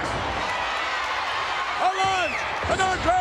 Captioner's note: spectators cheering